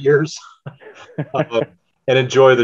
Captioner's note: laughs